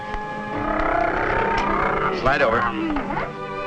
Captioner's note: vrooming